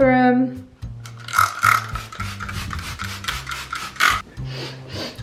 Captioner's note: bottle spraying